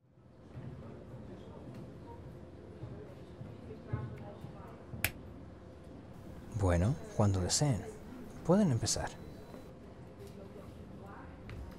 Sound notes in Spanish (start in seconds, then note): 0.4 conversaciones de fondo; 4.9 click